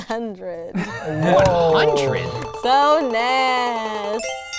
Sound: rapid computer beeping

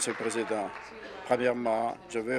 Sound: applause

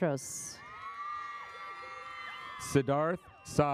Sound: audience applauds

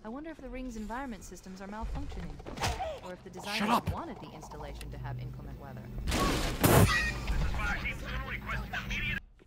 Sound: laughs

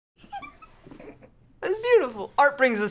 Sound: laughs

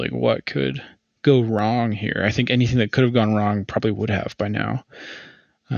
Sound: laughs

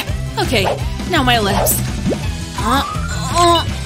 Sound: making angry sounds

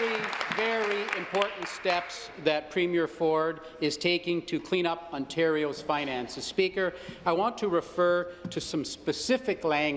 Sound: applause

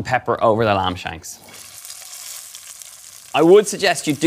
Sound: lamb sizzling

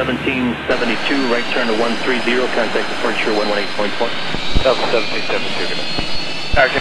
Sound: air traffic chatter

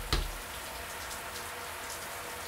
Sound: knocking

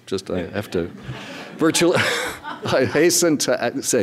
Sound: audience laughing

